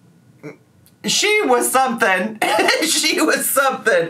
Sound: laughs

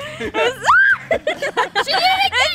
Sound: laughing; screams

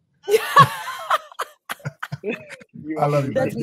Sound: laughs

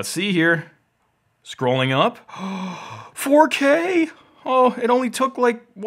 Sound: gasps

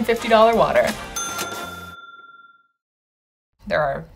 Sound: bell dings

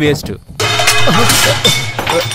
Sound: thuds

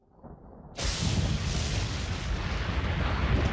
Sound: thunderclap sound

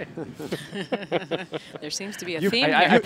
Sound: laughter

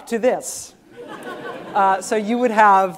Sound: students laughing

